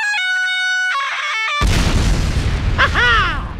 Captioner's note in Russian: взрыв